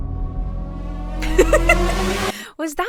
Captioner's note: dramatic music; laughs